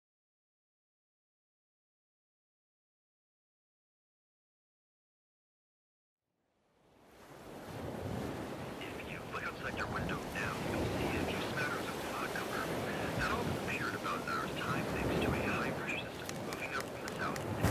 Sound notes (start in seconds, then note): 6.1 waves crashing; 8.4 radio Announcer; 16.2 clicking